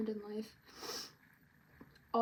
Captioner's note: sniffles